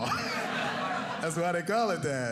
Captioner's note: audience laughing